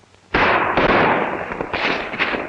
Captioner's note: gunshots